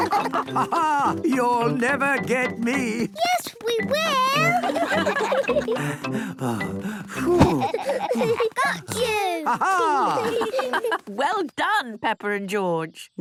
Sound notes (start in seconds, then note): 4.2 all laughing; 7.4 panting